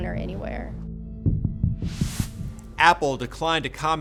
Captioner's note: graphic whooshes